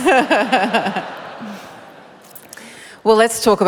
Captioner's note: laughter